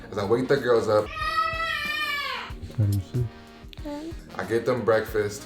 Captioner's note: girls yelling